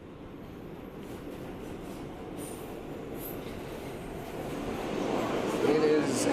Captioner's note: train clacking and whooshing